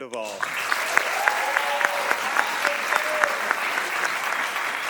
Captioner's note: audience applauding